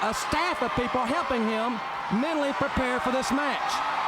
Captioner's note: crowd cheering